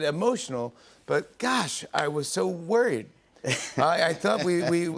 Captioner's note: chuckles